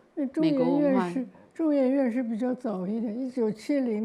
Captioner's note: Mandarin